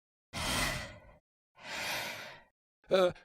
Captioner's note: anxious breathing